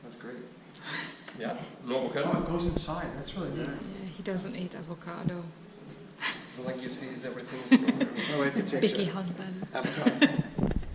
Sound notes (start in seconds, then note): 7.4 laughing